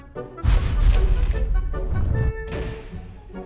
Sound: heavy thud

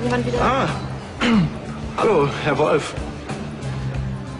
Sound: cough

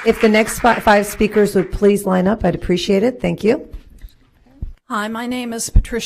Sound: applause

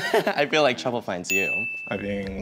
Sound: giggles; bell chimes

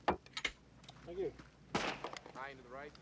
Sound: gunshot

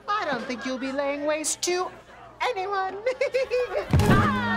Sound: chuckles

